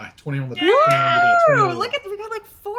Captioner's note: everyone cheers